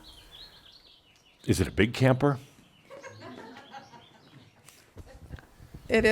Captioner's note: a few chuckles